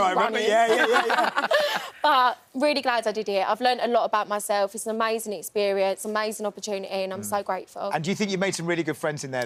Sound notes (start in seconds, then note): 0.2 laughing